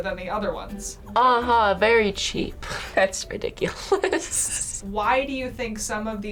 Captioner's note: laughs